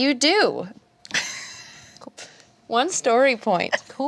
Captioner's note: laughing